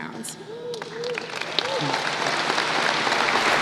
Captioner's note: applause